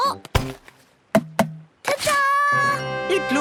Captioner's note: tapping